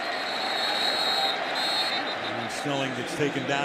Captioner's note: whistle